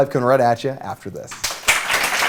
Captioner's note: applause